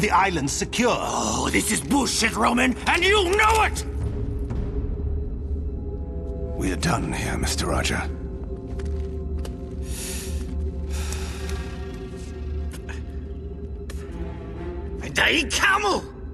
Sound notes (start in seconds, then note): 3.6 in-game audio